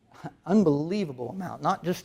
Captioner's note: chuckles